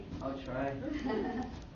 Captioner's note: laughter